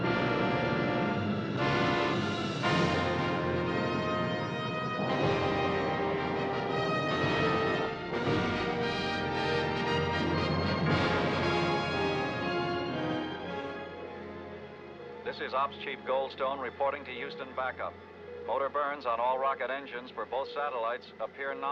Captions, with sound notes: [ Over Radio ] THIS IS OPS CHIEF GOLDSTONE REPORTING TO HOUSTON BACKUP. MOTOR BURNS ON ALL ROCKET ENGINES FOR BOTH SATELLITES APPEAR NOMINAL.